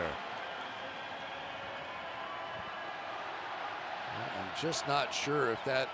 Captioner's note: pa announcement